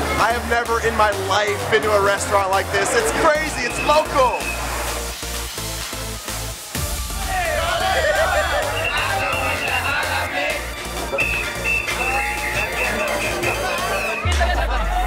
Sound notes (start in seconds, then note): 5.3 upbeat electronic music; 8.3 whistles blowing